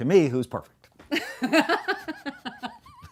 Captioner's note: laughing